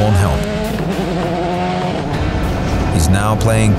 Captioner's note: car engine revving